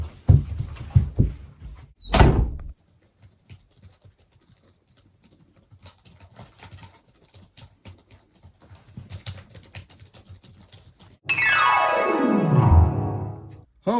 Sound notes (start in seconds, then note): 0.1 running footsteps; 2.0 door slam; 2.7 typewriter keys